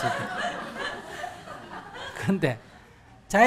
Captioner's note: audience laughter